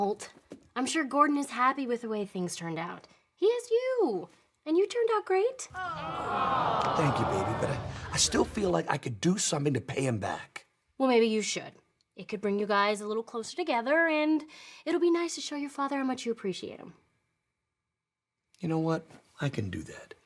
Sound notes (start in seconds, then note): 5.7 audience awwing